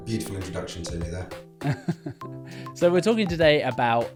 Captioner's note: laughs